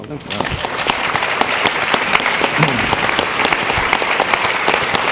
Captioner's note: audience clapping